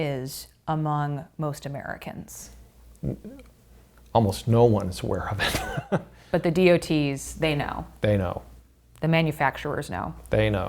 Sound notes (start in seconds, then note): 5.4 laughing